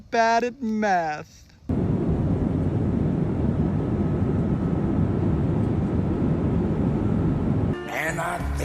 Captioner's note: sound of airplane in flight with all the doors shut as they should be